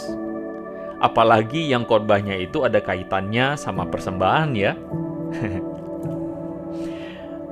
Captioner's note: laughs